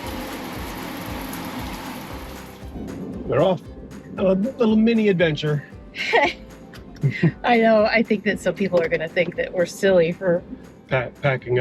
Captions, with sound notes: We're off. A little mini adventure. (both chuckle) - I know, I think that some people are gonna think that we're silly for-